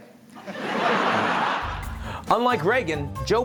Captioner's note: crowd laughs